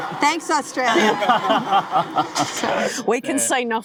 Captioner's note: laughing